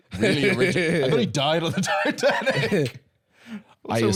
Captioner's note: laughing